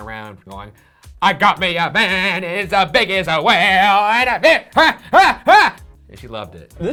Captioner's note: yelling